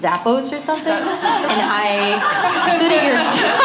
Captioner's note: laughter